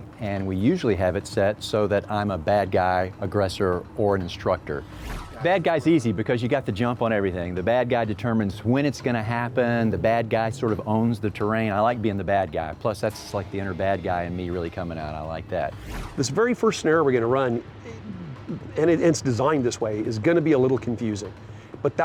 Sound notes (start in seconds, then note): 4.8 whooshing; 13.3 dramatic tone; 15.6 whooshing